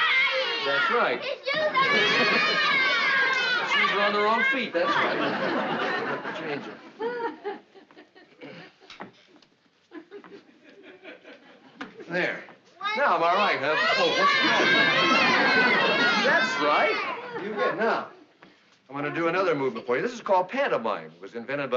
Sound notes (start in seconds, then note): 12.7 children all shouting answers